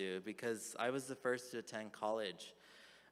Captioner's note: none